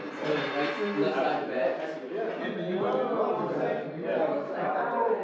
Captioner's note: crew chatting indistinctly